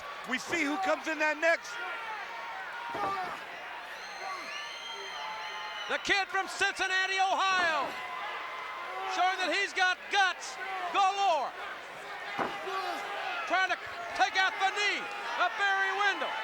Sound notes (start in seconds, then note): 4.4 applause